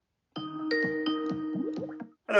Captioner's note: video Call Ringing Sound